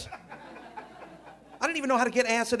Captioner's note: audience laughing